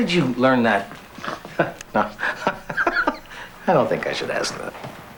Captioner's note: laughs